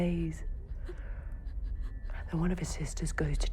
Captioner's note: sobbing